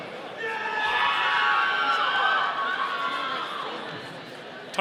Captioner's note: audience cheering